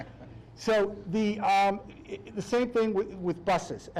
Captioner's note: laughing